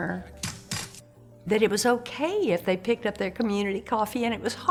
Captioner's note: fist banging